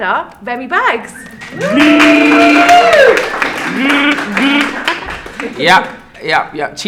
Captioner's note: cheering and applauding